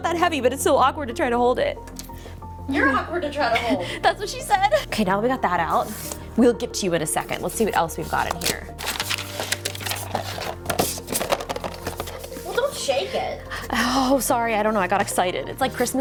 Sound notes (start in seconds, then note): 10.6 rattling